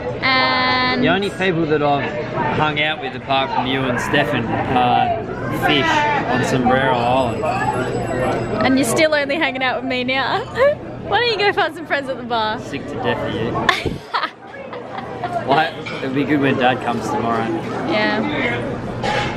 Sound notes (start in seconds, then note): 10.3 laughs; 13.6 laughs